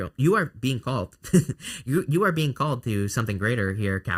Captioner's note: chuckles